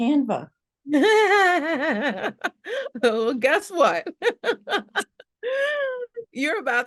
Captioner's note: laughs